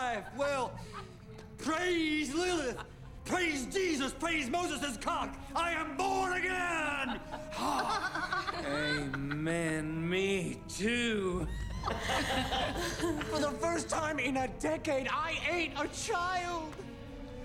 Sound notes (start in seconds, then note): 11.4 laughing